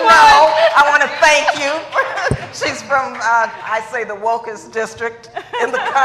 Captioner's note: laughter